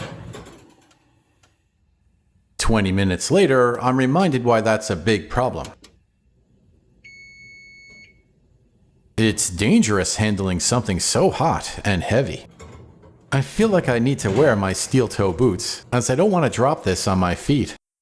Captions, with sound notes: Twenty minutes later, I'm reminded why that's a big problem. [Oven Beeps!] It's dangerous handing something so hot and heavy. I feel like I need to wear my steel toe boots, as I don't want to drop this on my feet.